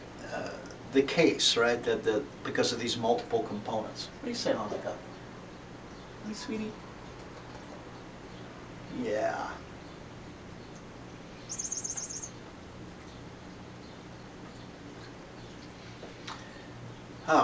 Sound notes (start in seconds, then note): 11.3 bird chirps